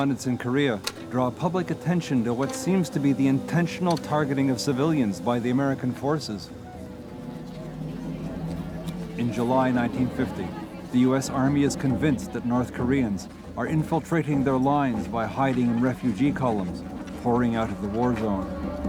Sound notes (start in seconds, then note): 7.3 people chattering